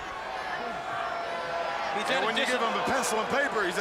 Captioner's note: crowd chatter